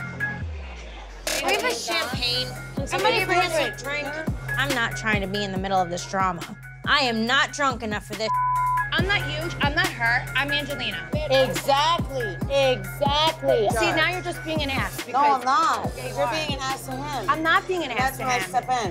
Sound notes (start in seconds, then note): 0.0 dramatic music; 8.2 beep